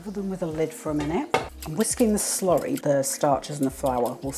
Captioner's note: whisk whisk whisk